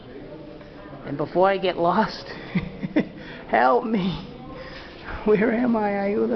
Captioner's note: laughs